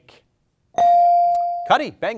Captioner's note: bell dings